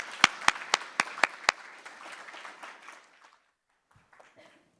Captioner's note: applause